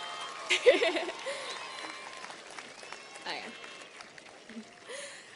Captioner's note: audience cheers and applauds; laughing